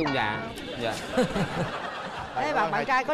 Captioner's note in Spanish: risas